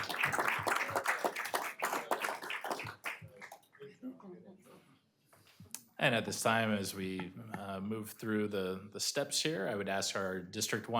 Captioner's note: applause